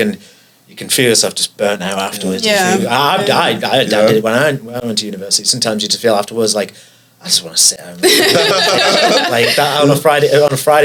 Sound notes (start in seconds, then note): 8.0 laughs